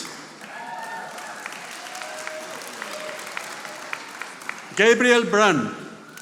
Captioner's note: audience applauding